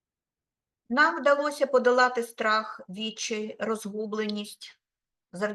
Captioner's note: speaking Ukrainian